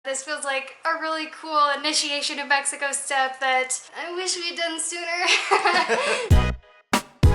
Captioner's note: laughter